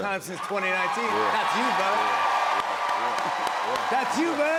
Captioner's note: cheers and applause